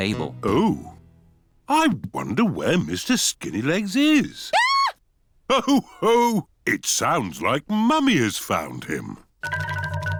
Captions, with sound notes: Oh. I wonder where Mr. Skinny Legs is. -(MUMMY PIG SCREAMS) -Ho-ho, it sounds like Mummy has found him.